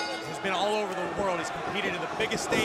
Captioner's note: bell ringing